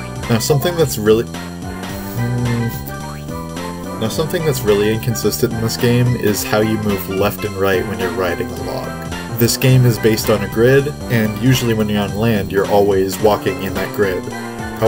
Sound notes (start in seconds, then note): 1.9 frustrated noises